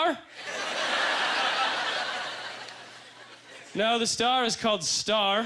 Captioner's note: audience laughter